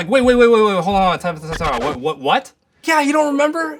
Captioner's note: stammering